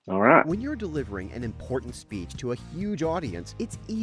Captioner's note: voice-over